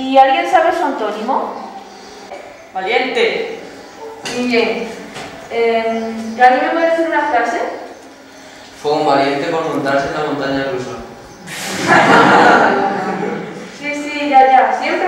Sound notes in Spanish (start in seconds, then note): 11.5 risas